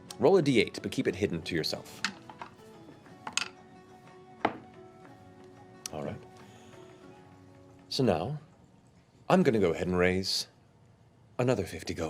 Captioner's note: clinking